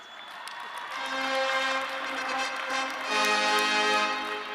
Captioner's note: audience cheering; ceremonial music